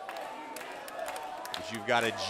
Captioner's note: crowd cheering